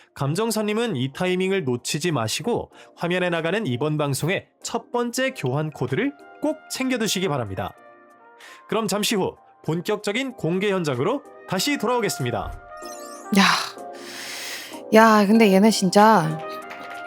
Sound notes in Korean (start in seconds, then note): 13.3 한숨; 13.3 헉 소리